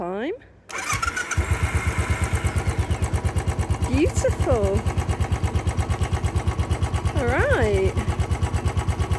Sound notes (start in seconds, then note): 0.7 engine roar